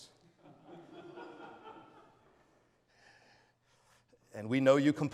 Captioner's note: audience laughs